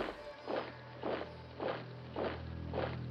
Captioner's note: boot sounds